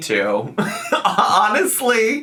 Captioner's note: laughs